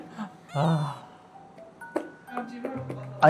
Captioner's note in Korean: 깊은 한숨